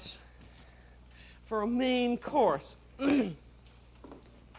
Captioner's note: clears throat